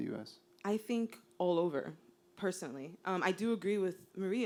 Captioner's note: voiceover